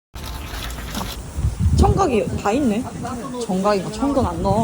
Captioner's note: slurping